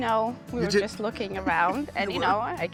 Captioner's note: laughing